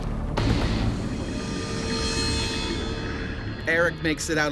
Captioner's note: long clanging; voiceover